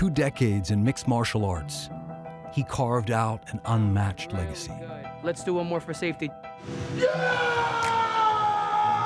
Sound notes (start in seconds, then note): 6.8 screaming